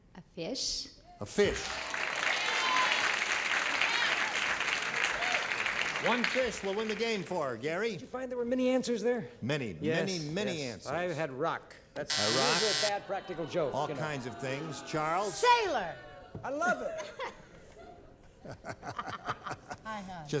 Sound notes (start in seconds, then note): 4.0 applause; 12.0 buzzer; 16.6 laughter